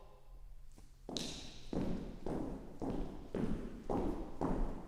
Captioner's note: footsteps approaching